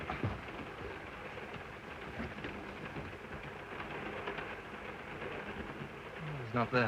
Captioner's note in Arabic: صوت خشخشة القطار